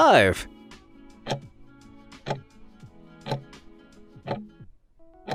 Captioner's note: timer ticking